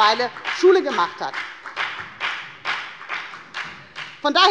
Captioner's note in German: Beifall bei der FDP